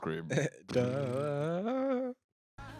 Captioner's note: humming